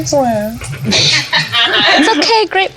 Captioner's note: laughter